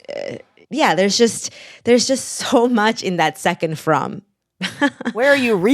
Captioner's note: laughter